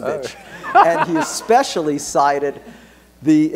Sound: laughter

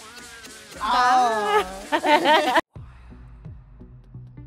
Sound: designers laugh

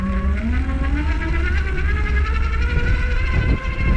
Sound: motor running

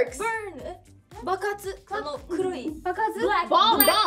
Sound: speaking Korean

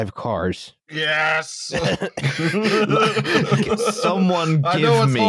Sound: laughter

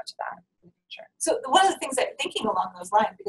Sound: voiceover

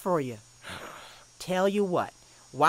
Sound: gen. bloom sighs

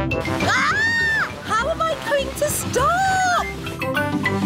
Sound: shrieks

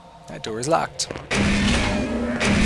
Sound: gunshot

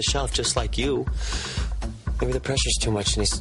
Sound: greg inhales

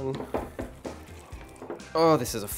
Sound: stirring

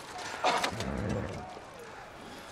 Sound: horse nickers

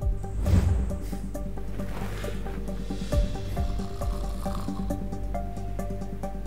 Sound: suspenseful music; woman snoring

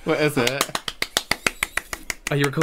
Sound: enthusiastic Clapping

